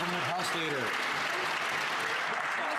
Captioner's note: some Applause